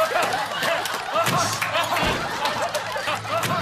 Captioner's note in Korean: 우당탕!